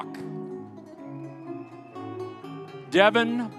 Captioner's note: audience cheering